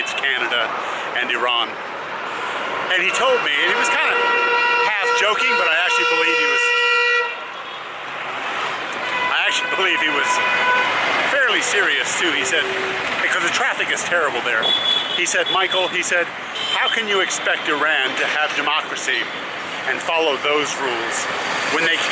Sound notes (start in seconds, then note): 7.0 horns